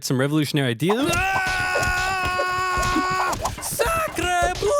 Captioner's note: screams